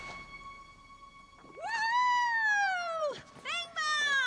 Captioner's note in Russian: кричит от радости